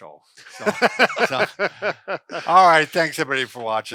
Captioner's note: laughter